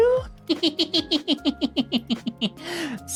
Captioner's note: laughs